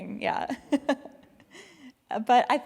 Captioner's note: laughs